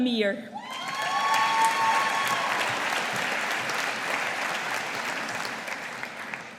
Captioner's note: audience applauding